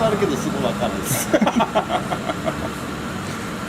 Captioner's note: laughs